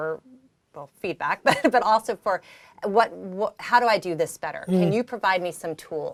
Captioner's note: laugh